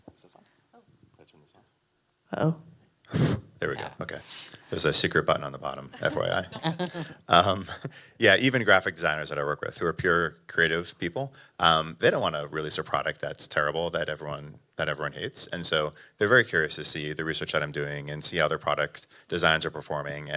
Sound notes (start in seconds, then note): 5.9 laughs